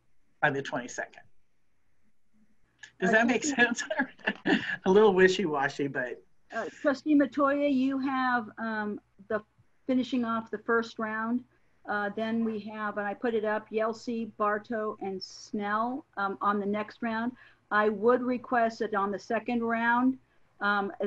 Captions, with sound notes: by the 22nd. Does that make sense? (laughs) A little wishy washy, but-- - Trustee Metoyer you have the finishing off the first round then we have, and I put it up Yelsey, Barto and Snell, on the next round. I would request that on the second round